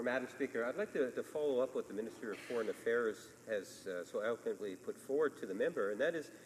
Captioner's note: speaking French